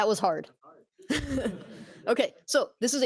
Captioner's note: laughter